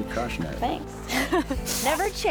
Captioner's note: laughs